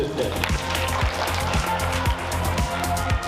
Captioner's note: applause